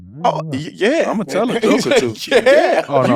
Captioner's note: chuckles